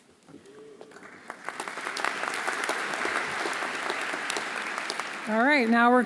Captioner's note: audience applauding